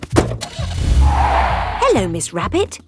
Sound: car starting; tires screeching

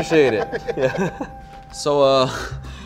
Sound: laughter

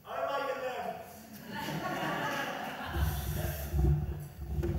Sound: audience laughs

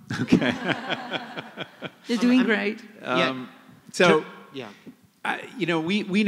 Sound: laughter

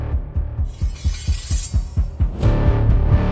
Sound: intense music; sword scrapes against scabbard; intense music

